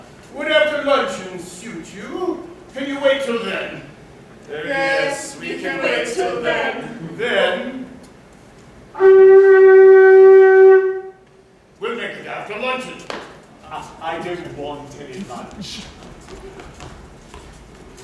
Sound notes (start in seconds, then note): 8.9 he sounds his horn